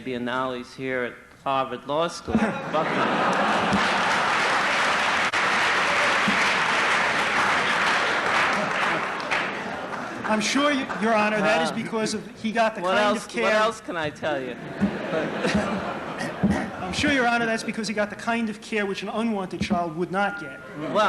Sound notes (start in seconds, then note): 2.3 laughter; 3.3 applause